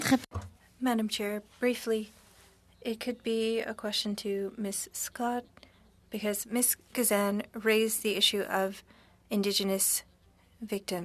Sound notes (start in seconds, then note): 7.1 speaking French